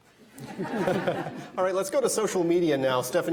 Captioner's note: audience laughing